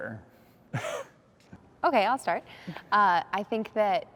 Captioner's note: chuckles